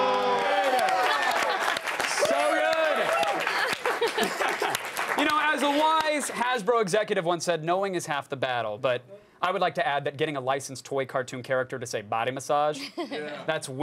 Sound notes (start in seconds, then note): 3.4 laughter